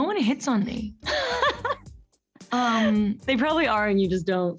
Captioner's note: Camila laughs